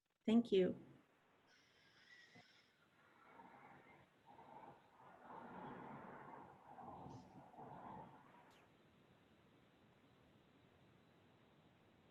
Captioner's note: silence